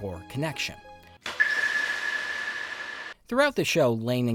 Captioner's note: sonar sound